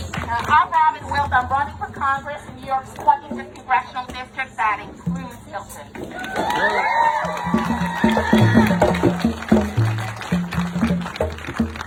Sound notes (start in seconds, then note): 6.1 audience cheering; 6.2 audience applauding